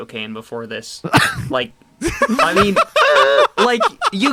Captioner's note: laugh